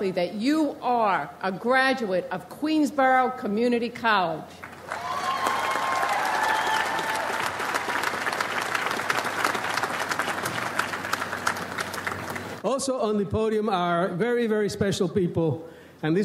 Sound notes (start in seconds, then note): 4.6 audience applauds